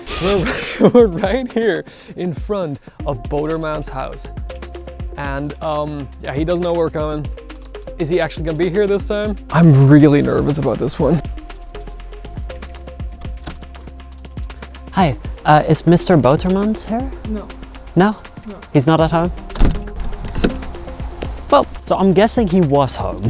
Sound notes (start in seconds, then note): 0.0 chuckles; 11.8 doorbell ringing; 13.2 door clacks; 19.3 door thuds